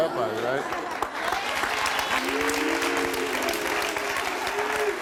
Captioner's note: audience clapping